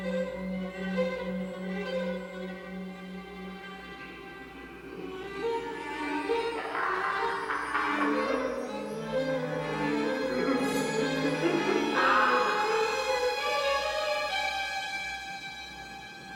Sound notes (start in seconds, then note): 0.2 eerie music; 6.6 Sir Simon laughing